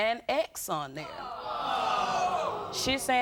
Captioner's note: audience oohs